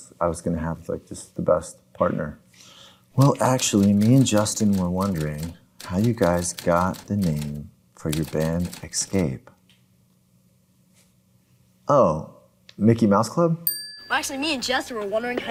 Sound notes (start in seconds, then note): 13.6 bell dings